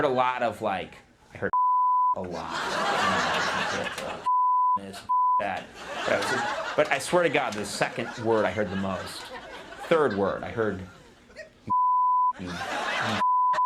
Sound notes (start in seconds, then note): 2.3 audience laughing